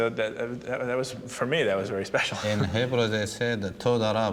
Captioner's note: speaking hebrew